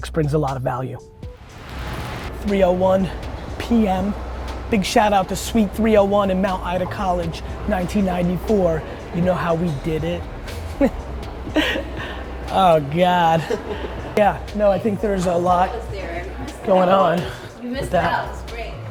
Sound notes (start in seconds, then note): 11.3 laughs